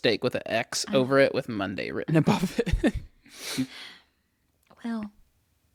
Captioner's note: laughs